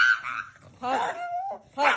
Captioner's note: dob squealing